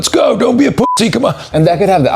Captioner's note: beep